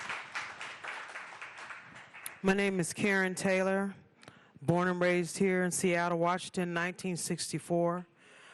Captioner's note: applause